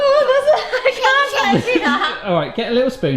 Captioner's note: laughs